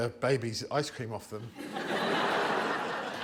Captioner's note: laughter